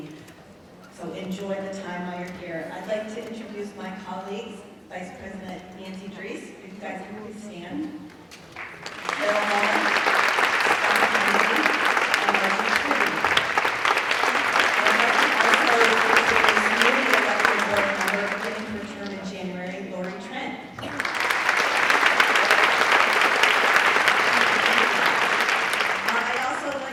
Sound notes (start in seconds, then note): 8.3 applause; 13.9 applause; 20.7 applause